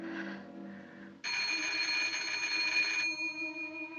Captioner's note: telephone ringing